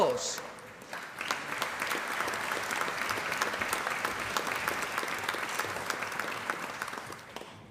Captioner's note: applause